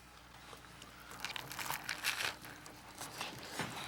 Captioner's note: crunching